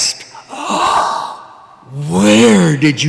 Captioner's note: gasping